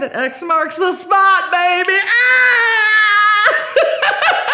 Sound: laughs

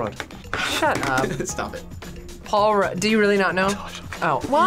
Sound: chuckles

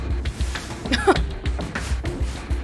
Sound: laughs/scoffs

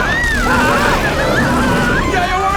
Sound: all screaming

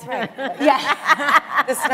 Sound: laughter

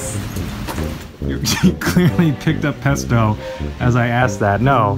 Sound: Eugene laughing

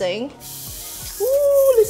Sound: sizzles

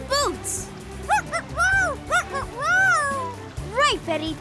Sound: barking

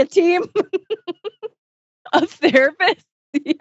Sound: laughs

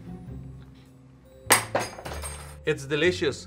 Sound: fork clatters on the ground

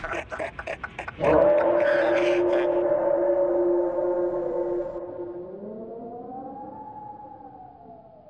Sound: O'Neal and Mick laugh; loud howl in the distance

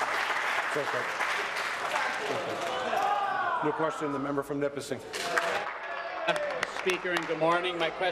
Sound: applause and cheering

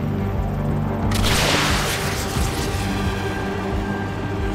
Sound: rocket launches

